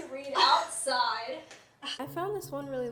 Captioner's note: laughter